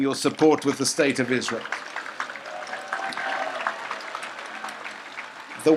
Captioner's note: audience applauds